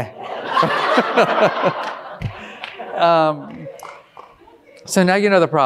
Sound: all laughing

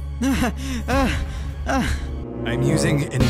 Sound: panting

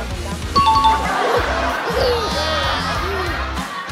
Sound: enthusiastic audience

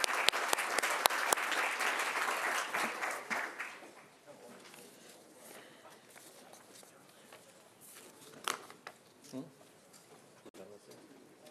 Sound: applause

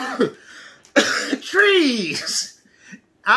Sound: coughing

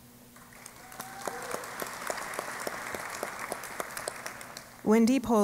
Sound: applause

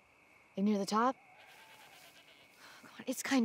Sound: goat bleats

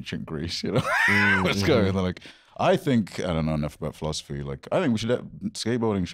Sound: laughs

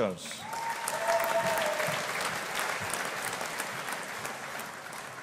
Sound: audience applauding

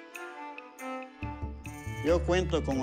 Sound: speaking spanish

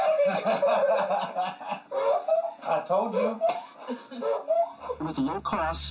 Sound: laughter

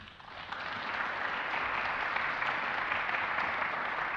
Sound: applause

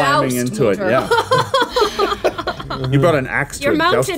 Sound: all laughing

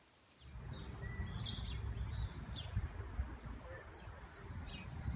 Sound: birdsong

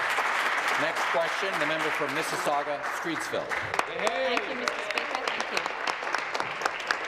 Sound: applause

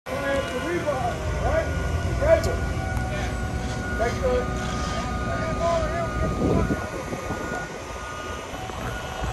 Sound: sound of construction workers as they prepare a girder to be lifted by a crane

